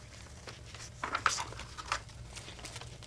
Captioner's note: sound of pages turning